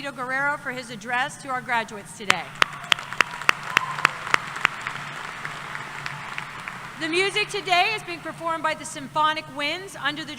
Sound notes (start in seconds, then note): 2.4 applause